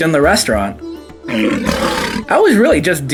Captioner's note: lion roars; gentle music continues